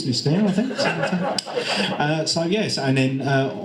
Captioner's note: audience and panel laugh